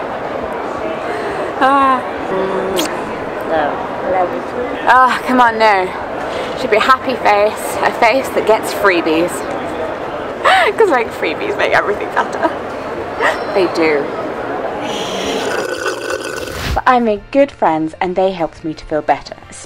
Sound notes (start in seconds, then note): 1.0 sigh; 10.2 laughing; 14.9 straw slurping